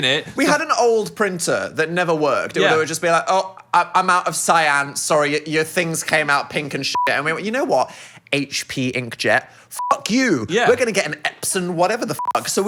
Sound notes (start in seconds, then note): 9.8 beep; 12.2 beep